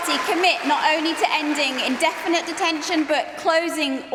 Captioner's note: applause